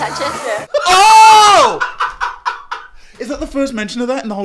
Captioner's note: laughing